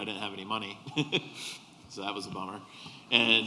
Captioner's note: laughter